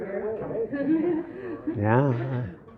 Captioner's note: laughter